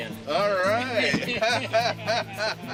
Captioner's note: laughing